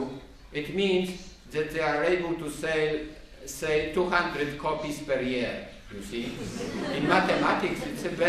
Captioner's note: laughter